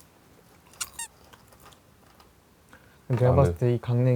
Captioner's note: Crunch